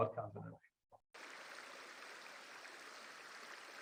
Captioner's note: water running